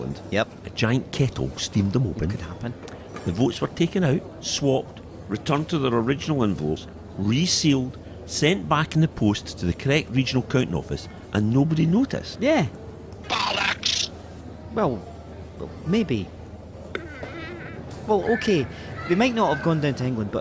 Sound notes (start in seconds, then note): 16.9 silence but for chair squeak